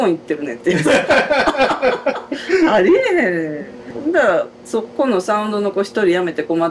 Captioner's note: laughter